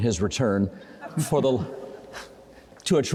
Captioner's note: crowd and panellists chuckling